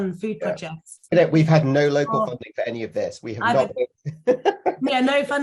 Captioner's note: chuckles